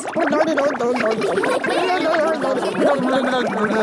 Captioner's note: children laughing